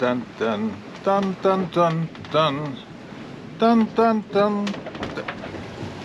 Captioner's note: hums tune